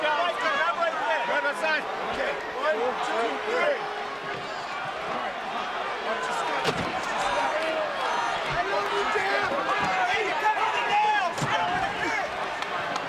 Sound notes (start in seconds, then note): 6.8 audience chattering